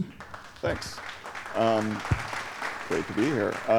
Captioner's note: applause